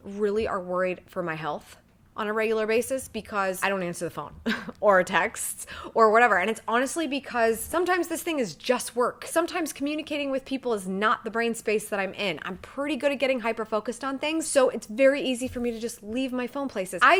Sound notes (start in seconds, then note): 4.4 chuckles